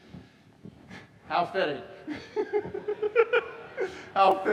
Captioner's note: laughs; audience laughing